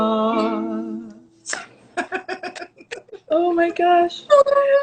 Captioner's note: laughs